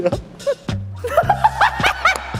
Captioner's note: already laughing; laughing